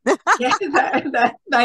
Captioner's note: everyone is laughing